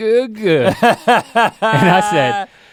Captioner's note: Rhett laughs